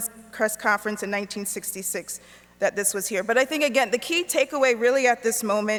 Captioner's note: none